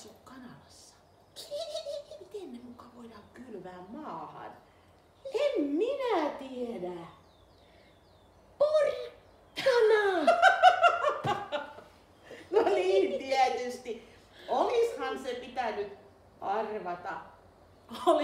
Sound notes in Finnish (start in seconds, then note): 0.0 hihittää; 4.6 hihittää; 9.5 naurua